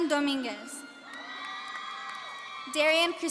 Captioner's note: audience cheering